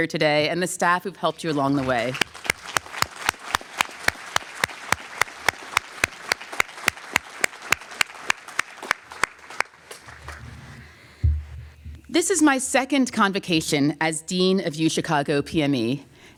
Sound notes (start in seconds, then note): 2.2 applause